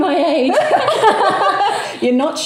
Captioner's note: laughing